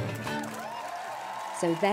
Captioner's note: applause and cheers